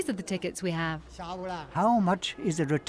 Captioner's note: speaking in foreign language